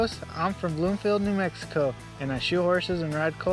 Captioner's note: none